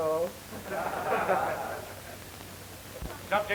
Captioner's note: crowd laughing